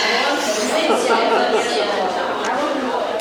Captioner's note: laughing